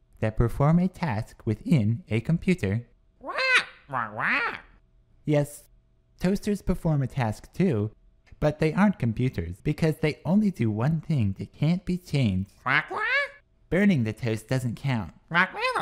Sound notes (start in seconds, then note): 3.2 squawks; 12.6 squawks